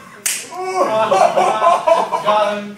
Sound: snap

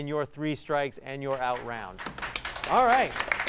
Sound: applause

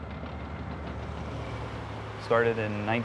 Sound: heavy machinery

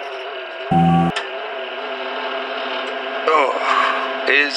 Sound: gaming pc boot up; internal pc boot up

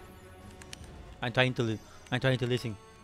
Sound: keyboard typing

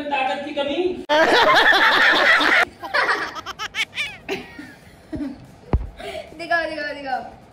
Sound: laughter

